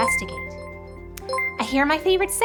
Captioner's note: ringing sound